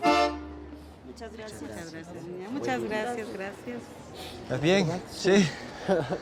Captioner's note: speaking foreign language